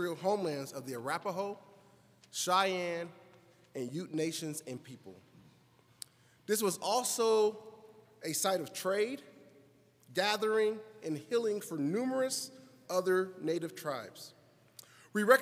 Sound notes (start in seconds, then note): none